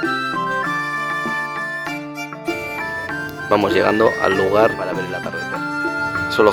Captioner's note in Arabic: هتاف